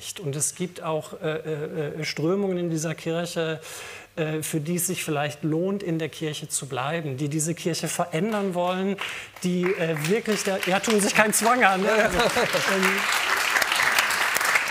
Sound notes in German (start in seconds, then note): 8.9 Vereinzelter Applaus